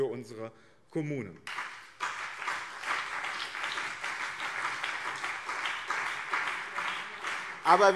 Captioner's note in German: Beifall BÜNDNIS 90/DIE GRÜNEN und CDU